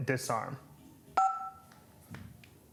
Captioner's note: beeps